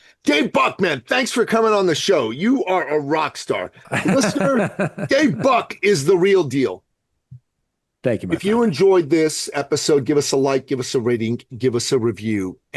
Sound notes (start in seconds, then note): 3.9 laughs